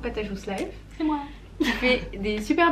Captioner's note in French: rires